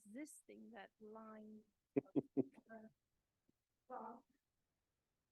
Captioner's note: chuckling